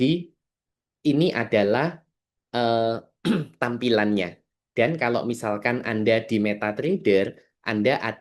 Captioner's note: berdehem